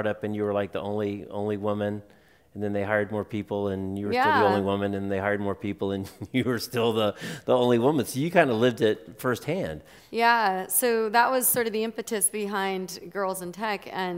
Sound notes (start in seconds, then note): 6.0 chuckles